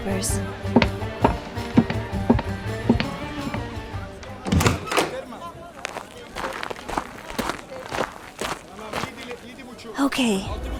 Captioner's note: walking, door opens, walking